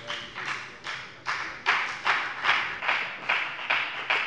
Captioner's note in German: Beifall bei der FDP